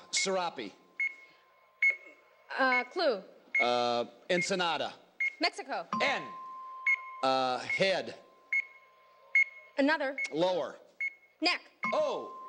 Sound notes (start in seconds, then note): none